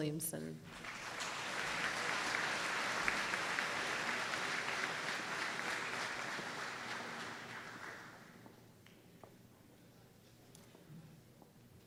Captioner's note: applause